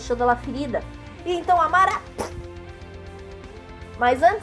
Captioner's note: sword sticking through skin